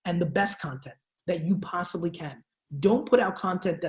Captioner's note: none